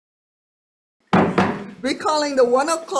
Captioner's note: gavel thudding